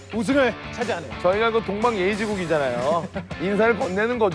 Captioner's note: haha